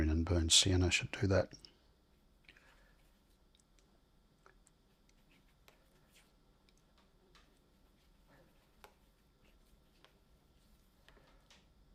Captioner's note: silence